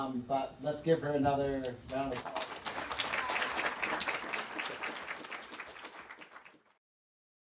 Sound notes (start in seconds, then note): 1.9 audience applauding